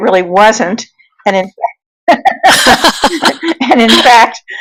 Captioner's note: laughing